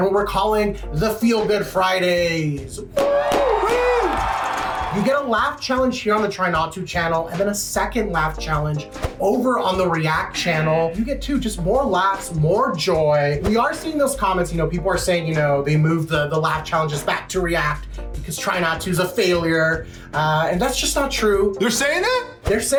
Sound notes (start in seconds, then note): 3.0 crowd cheers